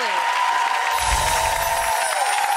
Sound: audience cheers; audience claps; chimes

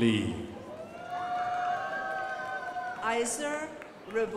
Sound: crowd applauding

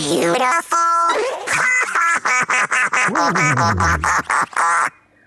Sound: laughs

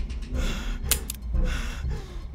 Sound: click

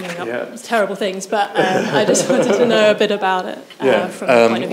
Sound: chuckles

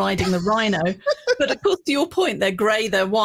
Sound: laughs

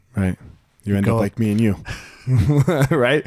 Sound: laughing

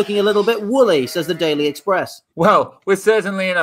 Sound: sheep baa'ing

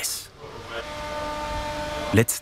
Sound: machine noises

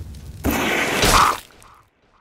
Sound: airblast sound

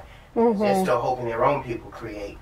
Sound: sounds of agreement

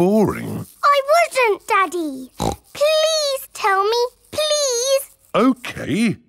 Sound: snorts

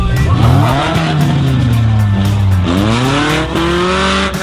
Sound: engine revving

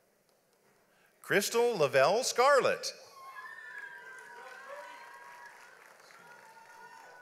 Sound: audience applauds

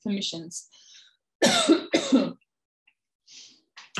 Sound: coughing

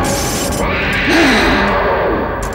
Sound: grunts

